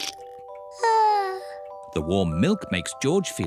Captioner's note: yawns